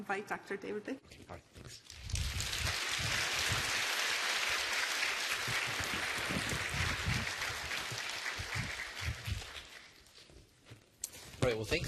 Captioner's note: applause